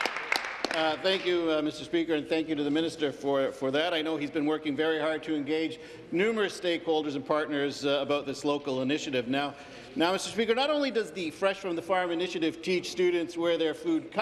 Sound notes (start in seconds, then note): 2.0 applause